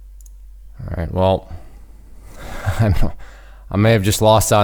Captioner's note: laughing